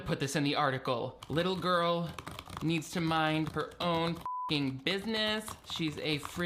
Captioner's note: beep